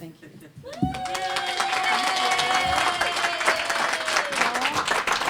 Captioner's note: applause